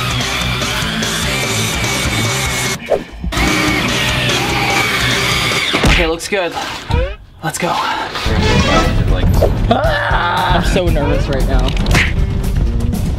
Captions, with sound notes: (drilling) Okay looks good, let's go! (screaming) I'm so nervous right now